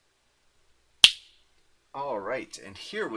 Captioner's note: snaps fingers